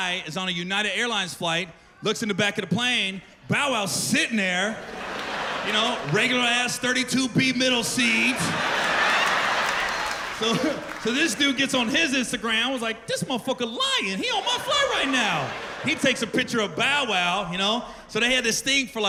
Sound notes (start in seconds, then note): 9.9 laughter